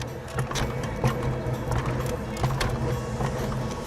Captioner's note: wheels clacking